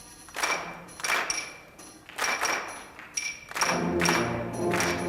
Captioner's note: rhythmic clapping